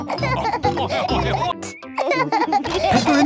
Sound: laughing

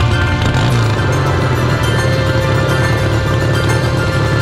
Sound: motorcycle engine starting

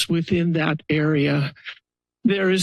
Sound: pause

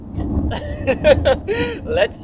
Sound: laughing

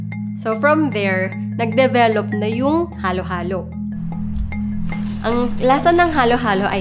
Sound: speaking in foreign language

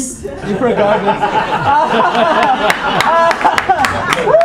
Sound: audience laughing

